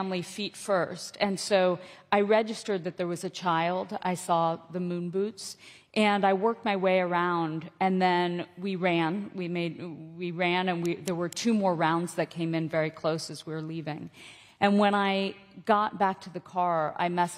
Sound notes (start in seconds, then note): none